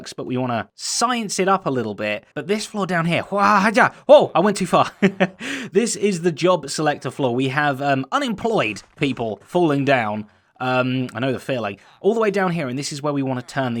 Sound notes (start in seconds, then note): 4.7 chuckles